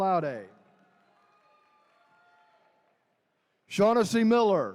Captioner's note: attendees cheering